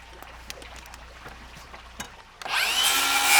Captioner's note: splashing water